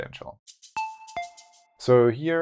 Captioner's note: notes sound